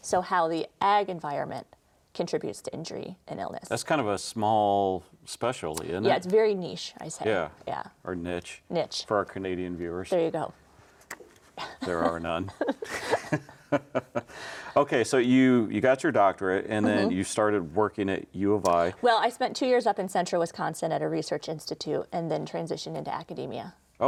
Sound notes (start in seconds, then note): 11.6 laughs